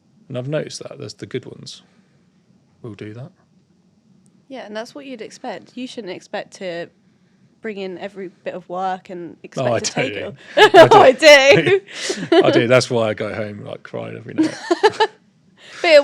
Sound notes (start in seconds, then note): 10.5 laughing